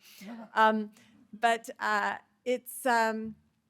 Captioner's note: sighs